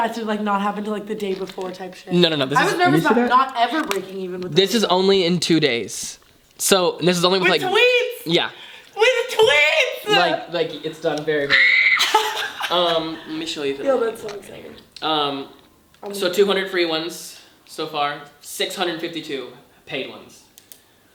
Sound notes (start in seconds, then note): 11.4 laughs; 11.4 screams